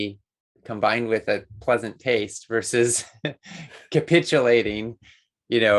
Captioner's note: laughs